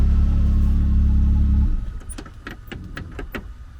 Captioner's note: engine shuts off